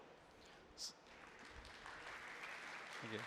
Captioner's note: applause